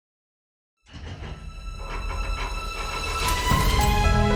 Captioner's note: vault clicking